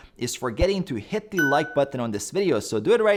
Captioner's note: button chimes